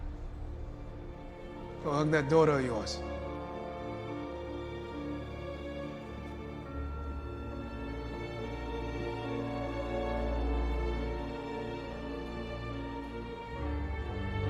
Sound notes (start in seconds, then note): none